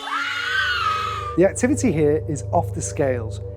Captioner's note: screams